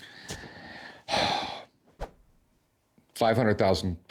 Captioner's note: sighs